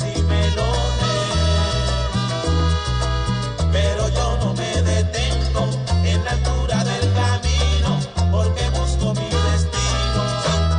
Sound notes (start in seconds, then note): none